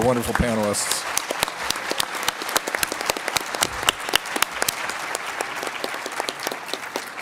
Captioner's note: applause